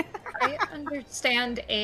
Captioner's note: laughs